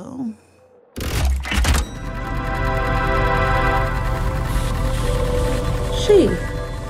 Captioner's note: mechanical sound. Time travel whoosh